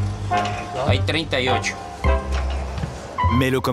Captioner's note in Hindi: स्पैनिश बोलते हुए